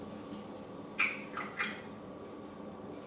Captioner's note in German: smacking sounds